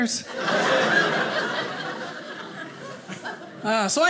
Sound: audience laughing

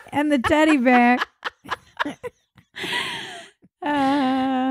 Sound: laughing

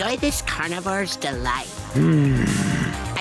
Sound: groaning

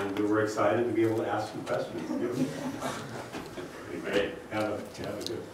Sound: laugh

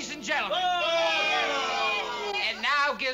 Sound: booing

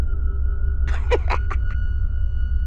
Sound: giggles

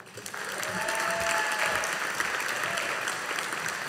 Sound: audience applauding

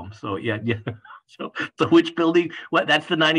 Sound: laugh

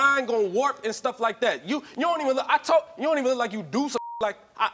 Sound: beeping

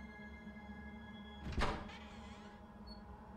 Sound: sinister music fades in; door opens

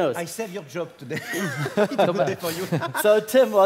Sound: laugh

